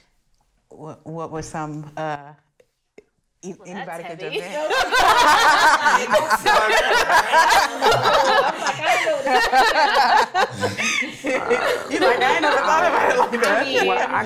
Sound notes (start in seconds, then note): 4.6 all laugh